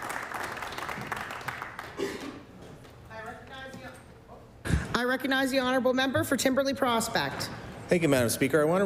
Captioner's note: applause